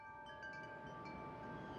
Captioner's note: metal chimes